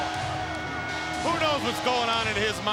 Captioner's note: crowd clamoring